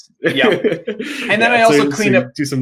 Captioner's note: chuckles